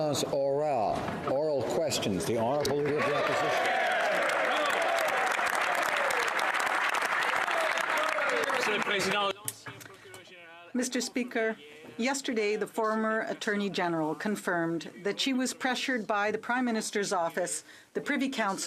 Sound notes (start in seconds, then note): 4.8 speaking French; 8.5 some Applause